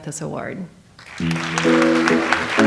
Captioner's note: audience applauds; light jazz music